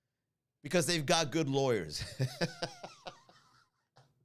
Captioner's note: laugh